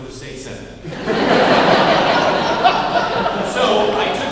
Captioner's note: laughing